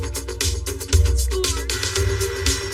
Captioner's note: vacuuuum running